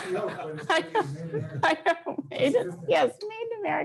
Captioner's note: laughs